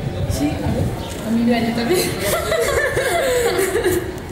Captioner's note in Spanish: Risas